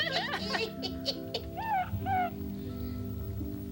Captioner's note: hooting